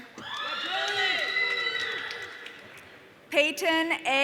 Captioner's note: audience cheering